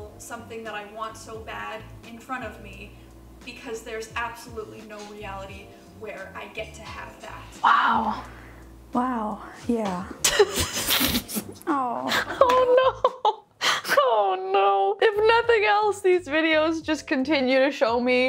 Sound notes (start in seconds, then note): 10.2 laughs